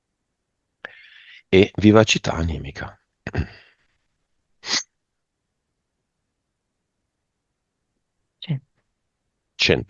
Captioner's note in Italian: schiarire la voce